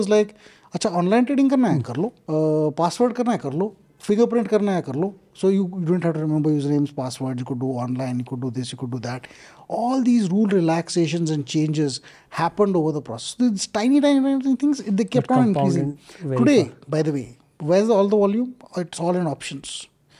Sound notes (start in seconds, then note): 4.8 speaks in Hindi